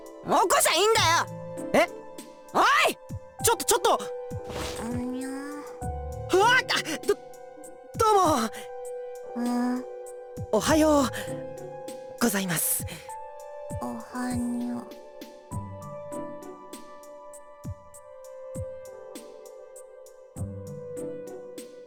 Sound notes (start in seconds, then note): 5.1 sleepy groan; 9.5 sleepy acknowledgment